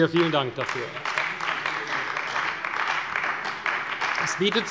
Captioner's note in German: Beifall bei Abgeordneten der CDU